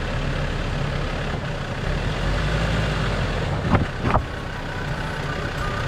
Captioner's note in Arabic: محرك السيارة يدق